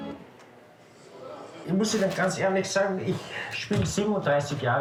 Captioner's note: music stops; speaking German